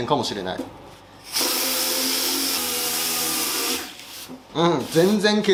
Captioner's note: working sound